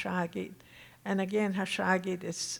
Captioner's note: speaking Tohono O'odham